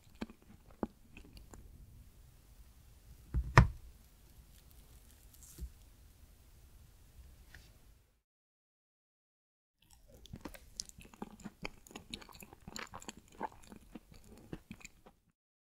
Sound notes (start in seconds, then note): 0.0 eating sound; 9.8 eating sound